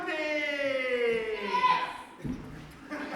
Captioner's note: singular audience boo